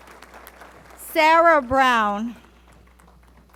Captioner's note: applause